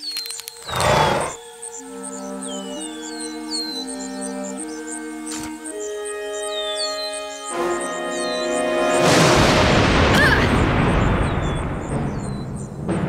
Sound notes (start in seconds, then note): 9.1 boom